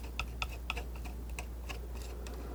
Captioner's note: tapping